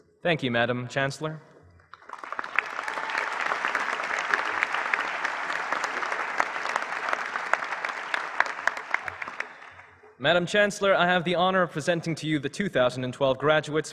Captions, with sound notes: THANK YOU MADAME CHANCELLOR. [APPLAUSE]. MADAME CHANCELLOR, I HAVE THE HONOUR OF PRESENTING TO YOU THE 2012 GRADUANDS